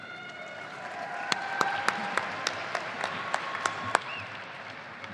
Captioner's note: audience applauding